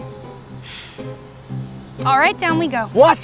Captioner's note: sighs